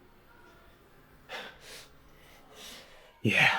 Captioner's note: heavy breathing